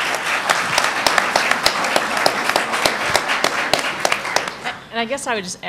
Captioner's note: applause